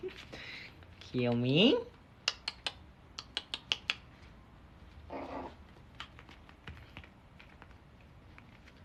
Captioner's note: dog summoning noises